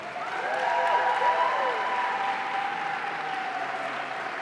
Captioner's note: audience cheering